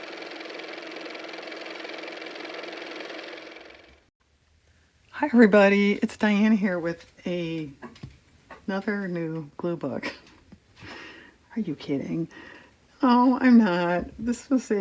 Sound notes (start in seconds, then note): 3.8 car motor